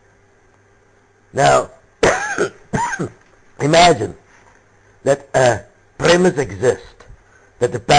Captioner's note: cough